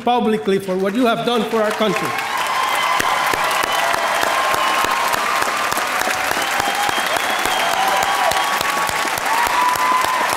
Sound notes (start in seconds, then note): 3.4 audience cheering and applauding